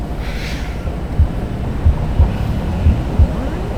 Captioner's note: electronic noise